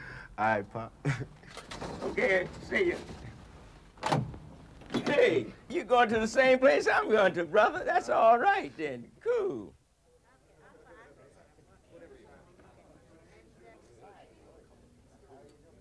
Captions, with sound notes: - (laughing) A'ight pop. - Okay, see ya. Hey, you going to the same place I'm going to brother. That's alright then. Cool. (crowd chattering)